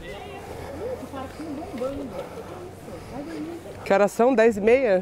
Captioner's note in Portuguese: voz distante